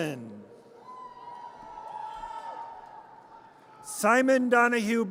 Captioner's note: audience cheers